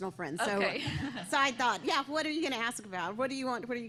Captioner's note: laughter